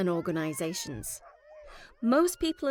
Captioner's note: barking